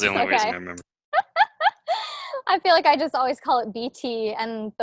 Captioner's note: laughs